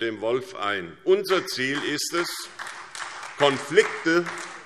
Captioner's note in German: Beifall SPD